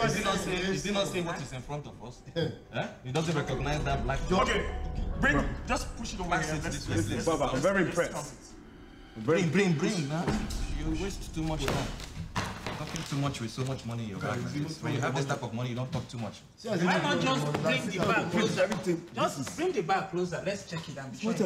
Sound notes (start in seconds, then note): 12.3 cash thudding